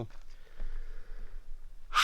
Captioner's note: inhales